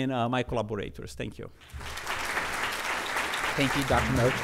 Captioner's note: applause